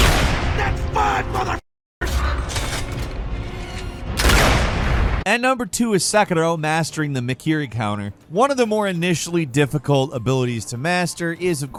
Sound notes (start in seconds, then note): 0.0 gun firing; 4.1 gun firing